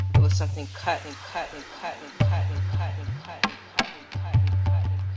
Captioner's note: echoes; tapping and drumming beat